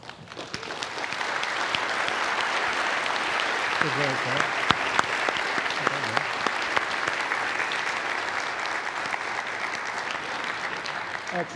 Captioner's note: applause